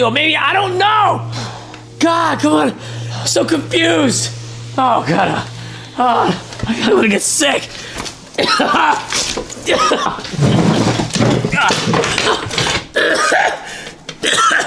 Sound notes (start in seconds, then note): 7.4 coughs; 10.6 objects falling